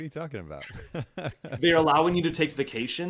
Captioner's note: laughs